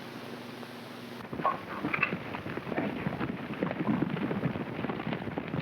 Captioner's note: hooves clopping